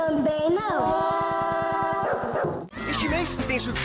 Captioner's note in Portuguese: efeito sonoro de desconfiança